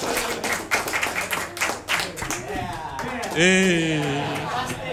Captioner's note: applause